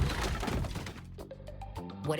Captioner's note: furniture crumbles